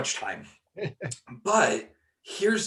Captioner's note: laughing